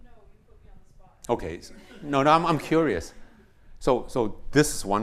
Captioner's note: laughter